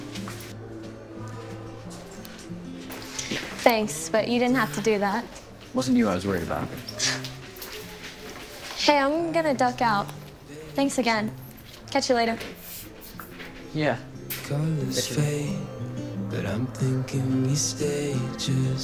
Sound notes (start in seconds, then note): 0.1 gentle music; 7.7 chuckles